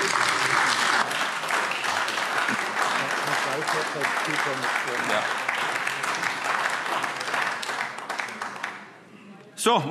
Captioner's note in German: Beifall AfD